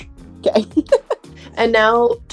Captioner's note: laughs